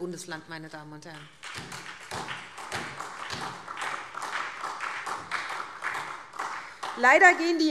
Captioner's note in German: Beifall SPD